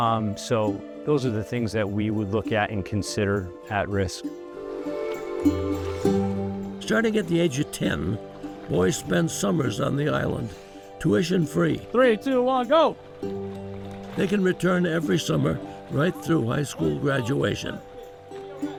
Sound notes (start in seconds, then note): 13.0 water churning